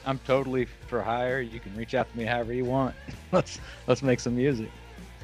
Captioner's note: laughs